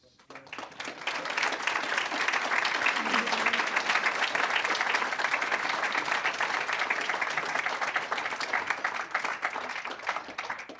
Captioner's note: applause